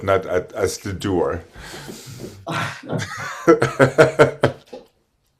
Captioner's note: laughs